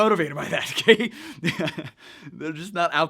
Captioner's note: laughs